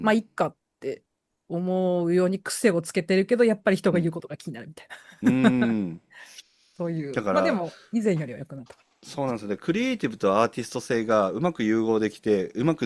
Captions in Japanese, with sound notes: ま、いっかって思うように癖をつけてるけどやっぱり人が言うことが気になるみたいな。 [笑い] うん。 そういうま、でも以前よりは良くなった。 だからそうなんですよね。 クリエイティブとアーティスト性がうまく融合できて、うまくできてる人ってほとんどなかなか難しいと思う。一番幸せな状態ですけどね。